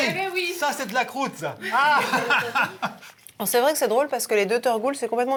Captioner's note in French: rires